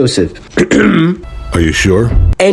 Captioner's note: clears throat